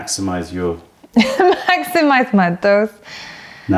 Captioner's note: laughter